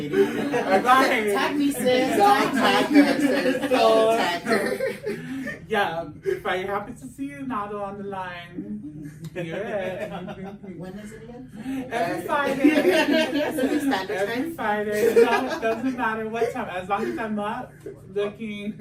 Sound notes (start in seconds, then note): 0.0 everyone laughs; 3.1 laughs; 3.6 everyone laughs; 12.0 laughs